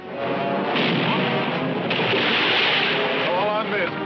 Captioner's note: cannon firing